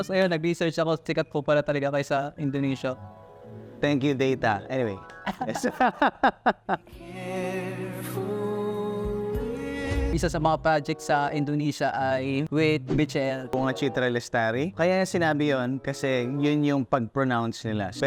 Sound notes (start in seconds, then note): 5.2 both laughs; 7.0 singing